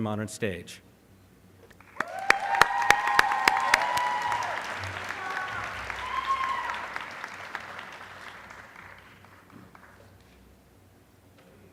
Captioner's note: applause